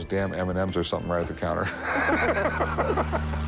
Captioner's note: chuckles